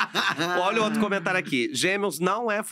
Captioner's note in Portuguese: risos